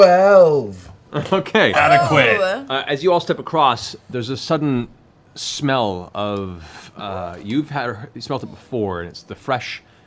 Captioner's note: laughs